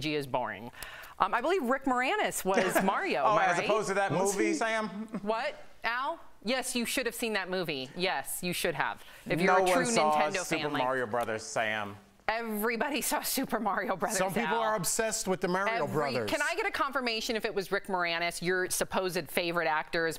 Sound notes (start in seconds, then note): 4.9 laughter